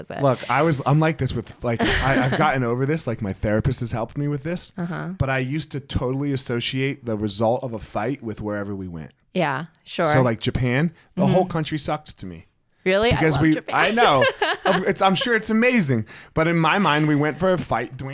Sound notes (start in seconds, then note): 13.4 both laughing